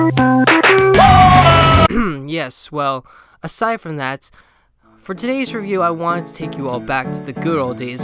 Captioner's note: clears throat